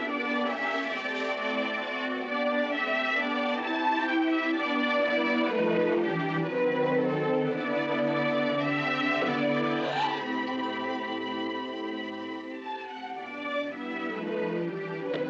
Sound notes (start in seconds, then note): 9.6 Sisters Gasp